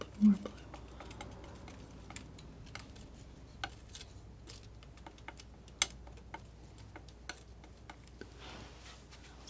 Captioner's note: scratching